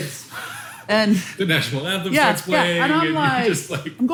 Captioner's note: laughs lightly